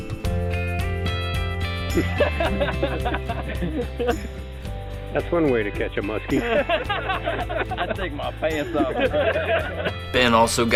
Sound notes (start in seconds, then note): 1.9 laughter; 6.4 heavy laughter